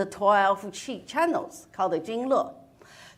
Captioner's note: speaks in foreign language